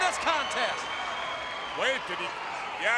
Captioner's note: crowd cheering